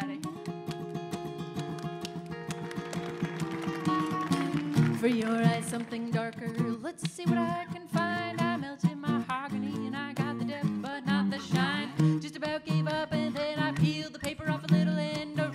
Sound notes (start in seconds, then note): 0.3 bright folksy guitar music; 2.0 audience applauding